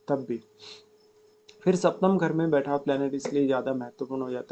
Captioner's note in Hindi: नाक से की जाने वाली आवाज़